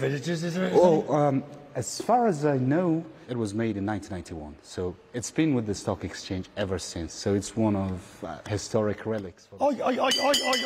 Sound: bell ringing

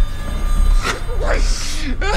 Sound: gasping

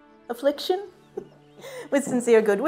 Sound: chuckles

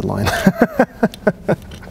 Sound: laughs

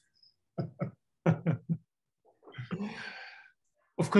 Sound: all laughing

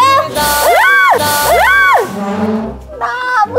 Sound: yelling; screaming

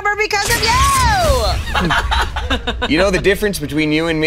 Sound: blast; laughing

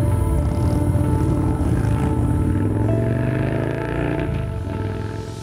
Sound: motorbike engines roaring

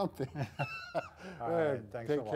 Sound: chuckling

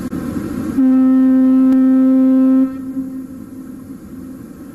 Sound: foghorn noises

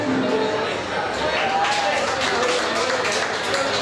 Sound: music ends, applause

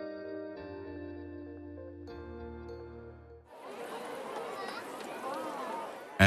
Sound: sound of bats flying

